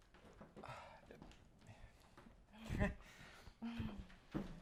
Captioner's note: Wes sighs